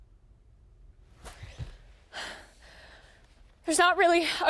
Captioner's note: Shannon gasps